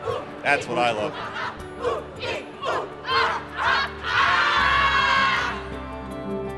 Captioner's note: kids cheer; cheerful music